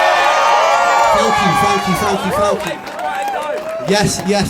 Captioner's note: cheers and applause; cheers and applause